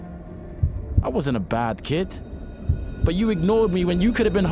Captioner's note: school bell ringing